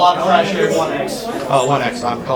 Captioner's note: talking